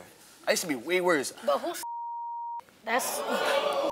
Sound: beep; audience clamors

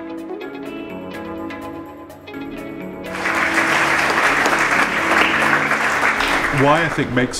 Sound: applause

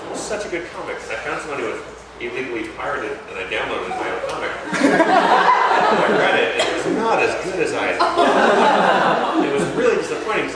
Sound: laughter

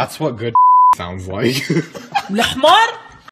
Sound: Akito laughs

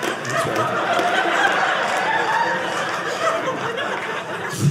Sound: audience laughing

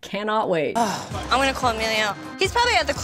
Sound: Snooki sighing

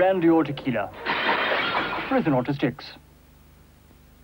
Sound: crash!

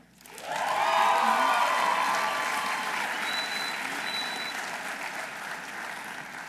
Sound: audience applauding; audience cheering

